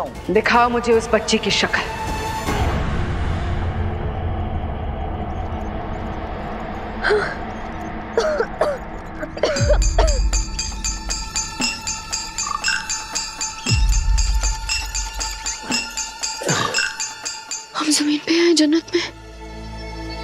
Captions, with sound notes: Show me his face. [tense music playing] Ah! [coughing] [suspenseful music playing] Am I on land or in heaven?